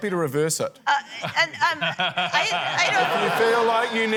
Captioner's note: stammers; laughter